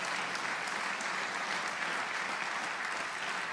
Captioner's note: applause